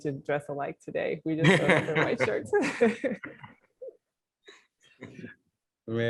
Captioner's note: laughter